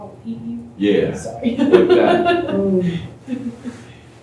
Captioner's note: laughter